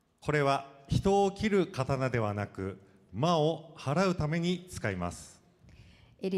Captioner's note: speaking foreign language